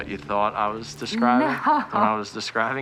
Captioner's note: laughs